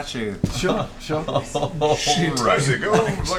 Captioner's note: chuckling